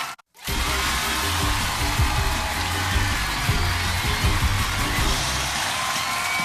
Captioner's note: cheers and applause